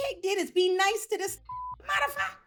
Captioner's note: beep